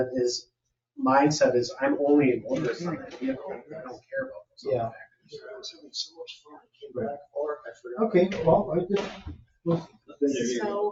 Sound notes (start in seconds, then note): 5.5 speaks distantly